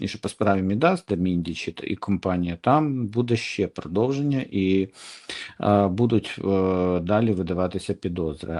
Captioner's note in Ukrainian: сопіння